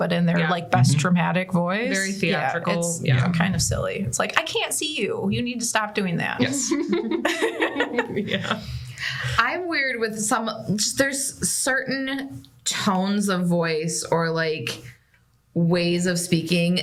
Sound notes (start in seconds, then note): 6.4 laughter